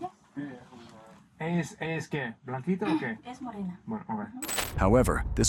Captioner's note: speaking Spanish